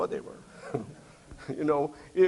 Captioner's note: instructor chuckles